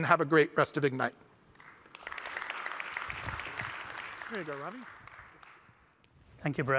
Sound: applause

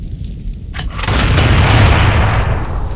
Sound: Gunshots and Creeper Dying

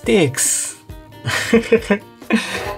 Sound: chuckles

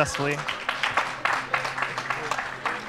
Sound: clapping

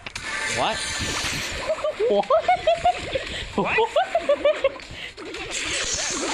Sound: laughing

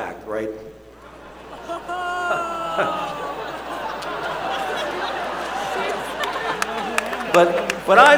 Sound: laughter

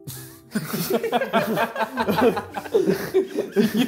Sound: laughing

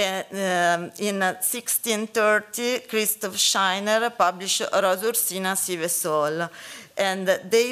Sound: italian

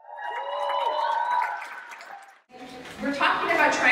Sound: audience claps and cheers

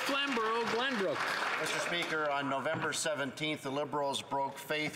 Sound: some Applause

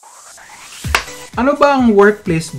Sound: clap!

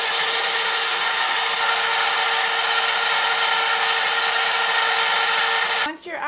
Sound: ice cream maker running

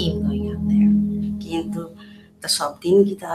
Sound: non-english

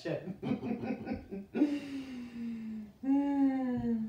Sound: chuckles

